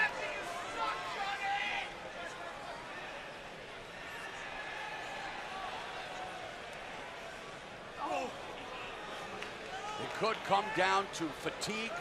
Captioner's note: crowd chatter